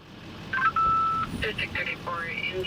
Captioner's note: radio bleeps